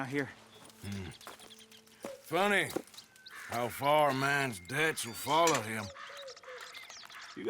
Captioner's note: murmurs